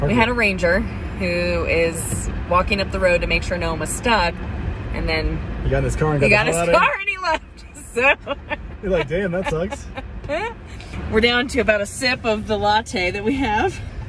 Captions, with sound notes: We had a Ranger who is walking up the road to make sure no one was stuck. And then, - He got in his car. - He got in his car and he left (laughs) - You're like, "Damn, that sucks." - We're down to about a sip of the latte that we have.